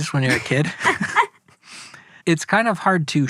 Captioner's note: laughs